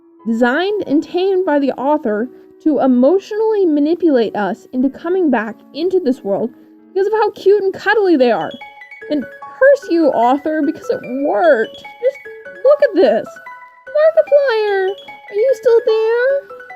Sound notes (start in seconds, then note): 13.7 high pitched